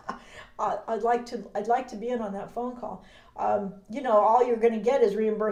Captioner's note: laughs